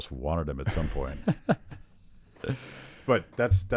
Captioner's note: laughs